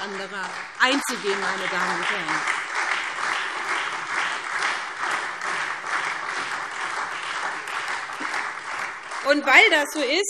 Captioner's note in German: Beifall SPD und Freie Demokraten